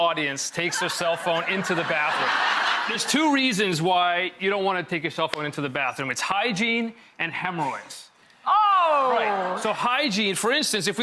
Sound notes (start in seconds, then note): 2.1 laughter